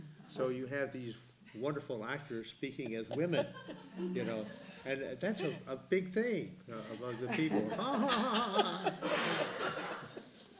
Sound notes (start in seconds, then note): 4.4 laughter